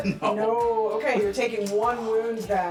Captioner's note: laughs